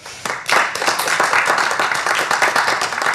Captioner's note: applause